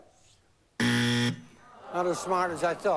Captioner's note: buzz